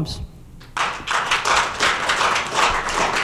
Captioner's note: applause